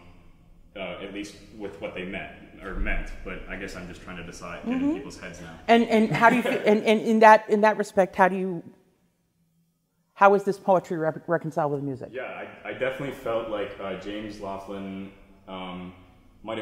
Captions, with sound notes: At least with what they meant, but I guess I'm just trying to get in people's heads now. [laughs] - In that respect, how was this poetry reconciled with music? - Yeah, I definitely felt like James Laughlin